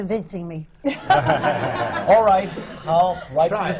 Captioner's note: laughter